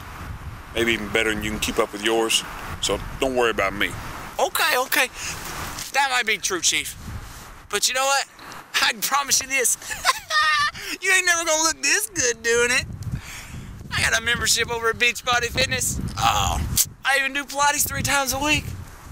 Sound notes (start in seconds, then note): 9.8 laughs